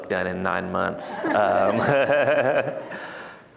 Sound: laughter

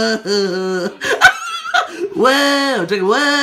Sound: laught

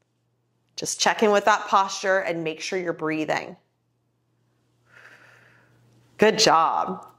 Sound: exhales

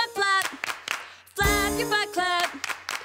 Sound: clap clap clap; clap clap clap

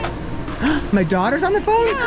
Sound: gasps

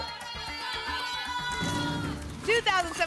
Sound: cheering

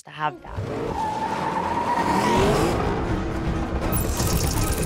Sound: brakes screeching; suspenseful music

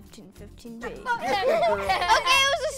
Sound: laughter

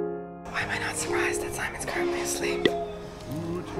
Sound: whispering

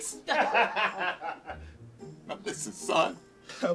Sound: laughing

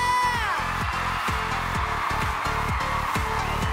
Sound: audience cheers

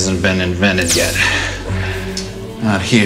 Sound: Hypo-spray hissing

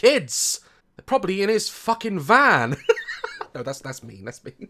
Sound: laughs

